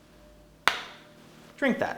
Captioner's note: slams vial onto table